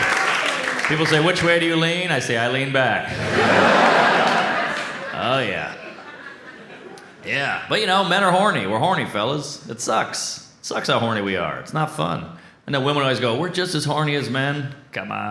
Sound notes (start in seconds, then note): 3.0 audience laughs